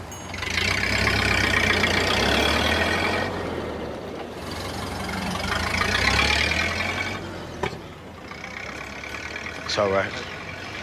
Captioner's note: car rumbles